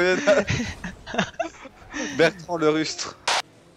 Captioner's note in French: rires